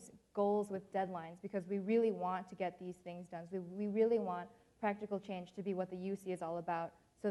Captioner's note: none